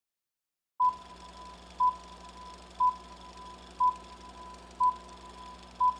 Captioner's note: beeping